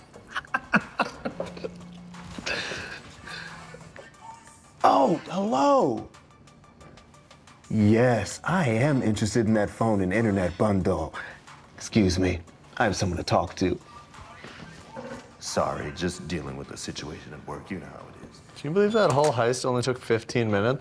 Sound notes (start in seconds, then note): 0.2 laughter; 1.2 Meinhof's phone buzzes